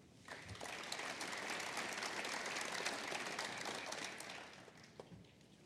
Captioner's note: applause